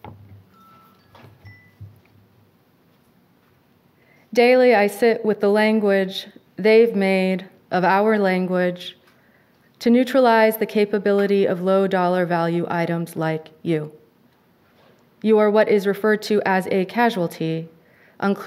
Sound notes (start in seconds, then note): 0.4 cellphone tone